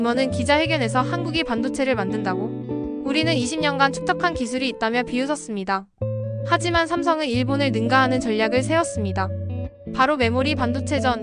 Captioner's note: English speaking